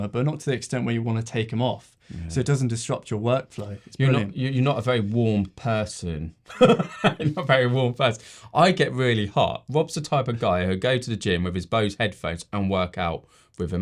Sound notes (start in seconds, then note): 6.5 laughs